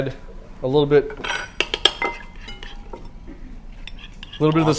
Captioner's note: metal clinking